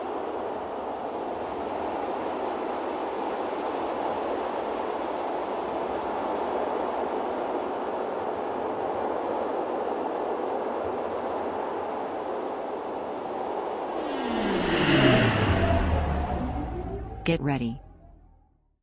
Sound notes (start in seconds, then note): 13.9 aircraft whirring